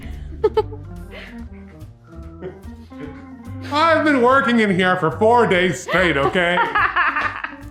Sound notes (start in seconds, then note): 0.1 laughs